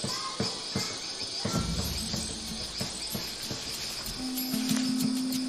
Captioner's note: drums beating; children chattering